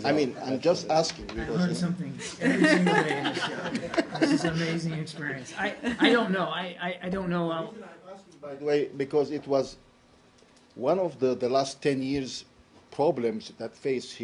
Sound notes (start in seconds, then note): 4.5 laughter